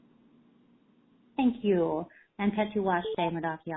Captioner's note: speaking Native language